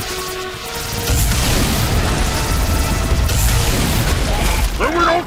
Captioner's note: zapping